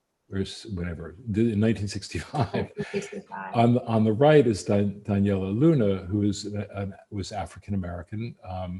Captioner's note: laughs